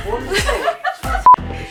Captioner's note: all laugh